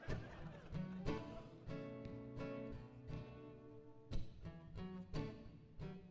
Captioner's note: audience chuckles; gentle guitar music